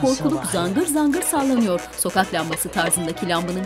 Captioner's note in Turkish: Gıcırtı sesi